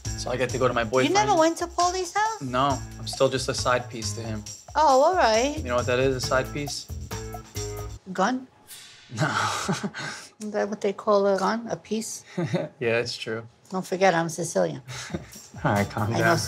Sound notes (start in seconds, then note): 9.2 laughs; 12.5 laughs; 14.9 laughs